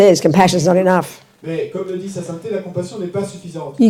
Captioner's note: French